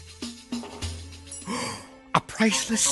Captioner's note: gasp